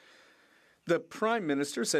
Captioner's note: speaking French